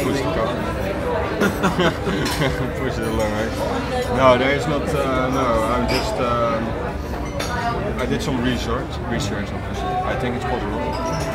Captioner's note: laughs